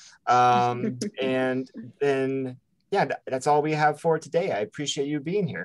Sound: chuckles

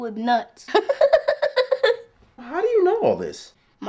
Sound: laughing

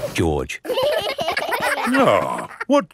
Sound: giggling

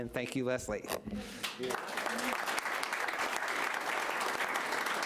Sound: applause

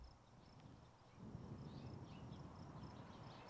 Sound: birds chirping; river flowing gently

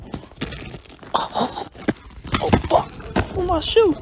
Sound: chuckles

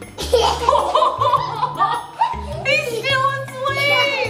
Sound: laughing

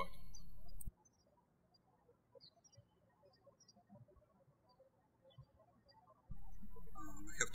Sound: birds chirping

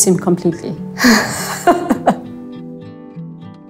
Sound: laughing

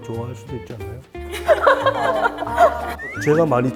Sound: hahaha

